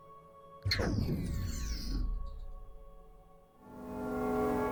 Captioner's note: computer whirring